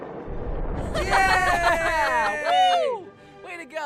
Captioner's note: group cheers